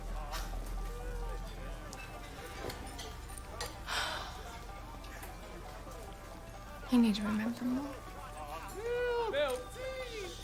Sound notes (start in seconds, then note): 0.1 chuckles; 3.8 sighs